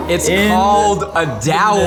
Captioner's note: dramatic music; woman laughing